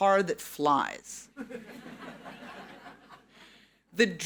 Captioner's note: audience laughing